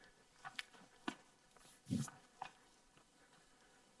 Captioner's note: softly breathing; quick footsteps